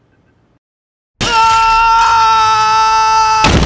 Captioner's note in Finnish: huutaa; räsähdys